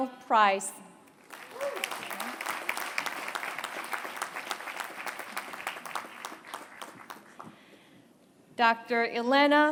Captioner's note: applause